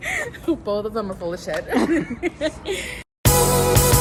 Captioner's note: laughs; upbeat music